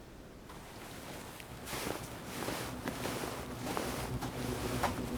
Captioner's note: footsteps thudding